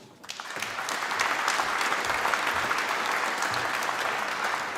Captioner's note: applause